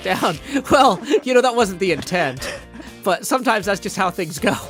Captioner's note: laughs